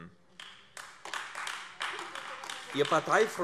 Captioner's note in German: Beifall AfD